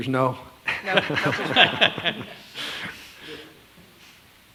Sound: regents laughing

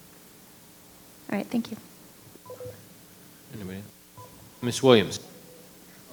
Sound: microphone beeping

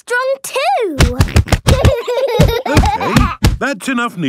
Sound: banging

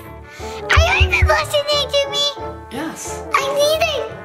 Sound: knocking camera

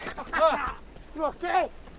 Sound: laughs

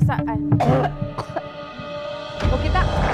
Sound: cough

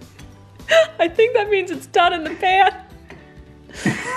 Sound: laughs

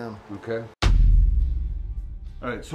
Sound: text thuds

